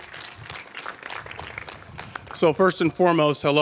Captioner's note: applause